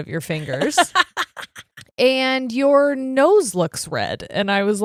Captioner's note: laughing